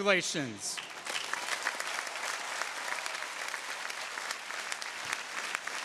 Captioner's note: audience cheering